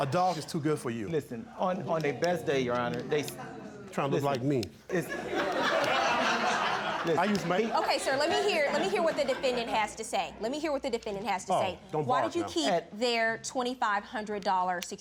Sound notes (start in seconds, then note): 4.9 audience laughing